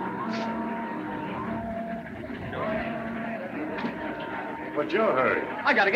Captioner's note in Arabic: الناس يتحادثون